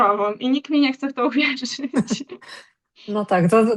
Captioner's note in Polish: śmiech